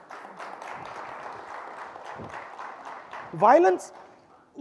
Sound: audience applauding

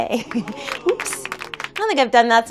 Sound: hands clapping

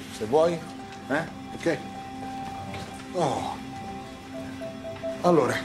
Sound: dante's sigh

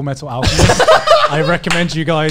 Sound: laughs

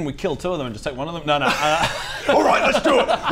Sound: laughs

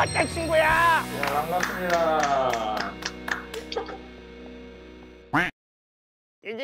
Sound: clapping

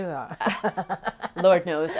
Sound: laughing

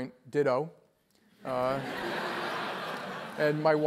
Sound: laugh

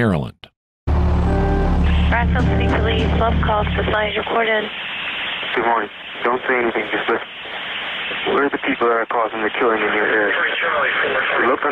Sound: distorted audio

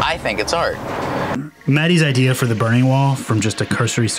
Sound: voiceover

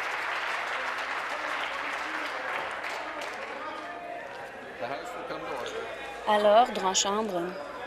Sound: applause

